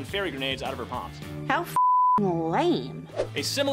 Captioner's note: beeping